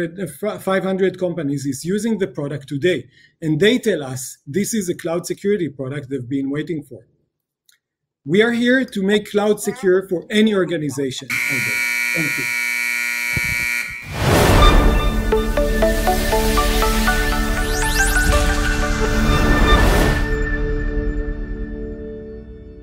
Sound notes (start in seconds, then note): 11.2 buzzer sound